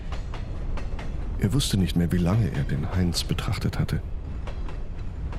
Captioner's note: narrator in German